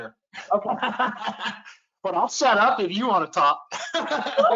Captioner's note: laughs